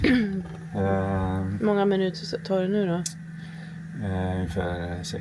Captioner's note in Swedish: harklar sig